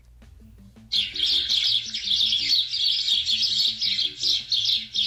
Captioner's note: sparrow chirping